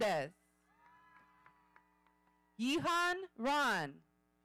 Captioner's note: audience cheering